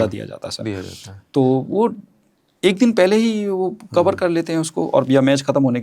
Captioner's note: nasal sound